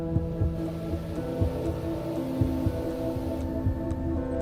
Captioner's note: suspenseful music; leaf blower